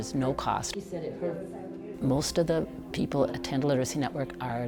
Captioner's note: background conversations